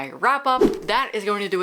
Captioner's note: whoosh